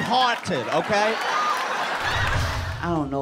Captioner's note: laughter